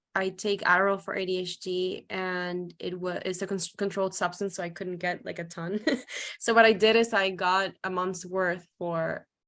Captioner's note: laughs